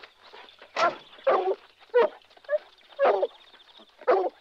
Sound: birds chirping

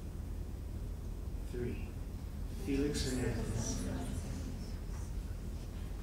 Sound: whispers

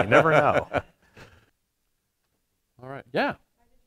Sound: laughs

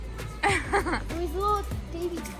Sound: laughing

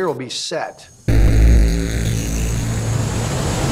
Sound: static

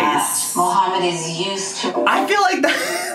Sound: television

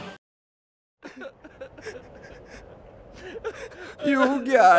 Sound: crying

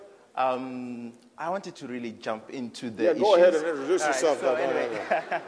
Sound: laughter

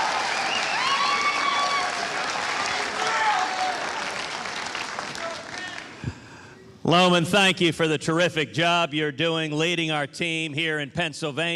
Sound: applause

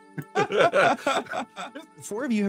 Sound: laughter

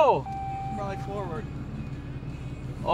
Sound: vehicle beeps

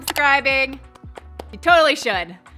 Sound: clapping

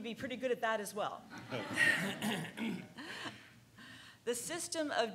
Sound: laughing

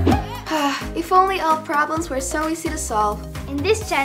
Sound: sighs

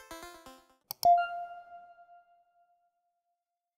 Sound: electronic tone rings

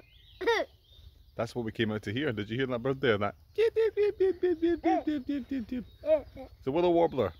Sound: makes bird sound

